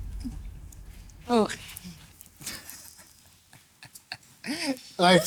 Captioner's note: laughs